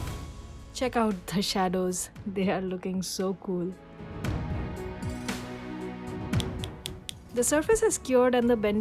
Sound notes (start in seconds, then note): 4.6 rhythmic music; 6.4 tapping sound